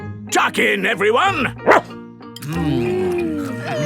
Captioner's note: barks